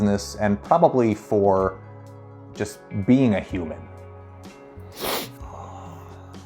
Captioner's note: sighs